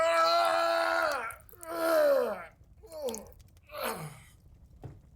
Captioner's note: groans in pain